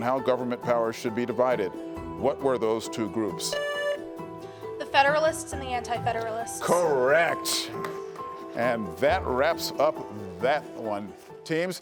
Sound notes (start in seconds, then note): 3.5 buzzer buzzing